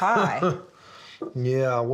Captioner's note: laughs